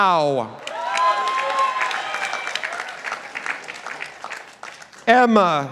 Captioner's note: participants applauding